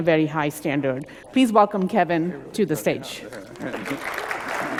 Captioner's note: applause